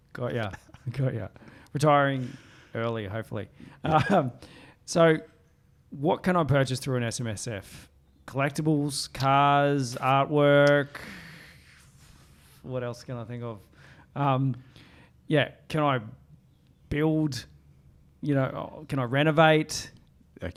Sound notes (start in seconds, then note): 0.4 giggling; 4.2 laughs